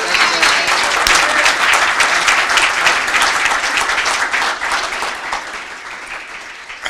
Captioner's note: cheering and Applause